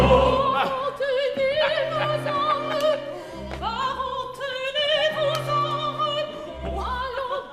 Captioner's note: The BARON laughs